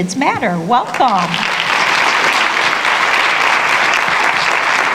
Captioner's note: applause